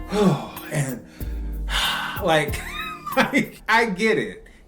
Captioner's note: triple Gasp; double Gasp